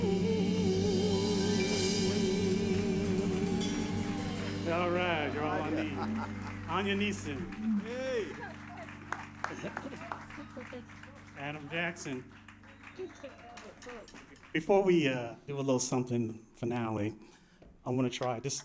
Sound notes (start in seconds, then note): 5.4 laughter; 7.2 applause; 7.2 laughter; 13.1 applause